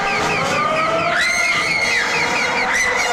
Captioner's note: Chooper screaming; Connie screaming